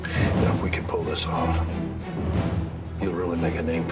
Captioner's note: sighs